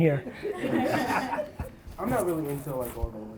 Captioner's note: laughs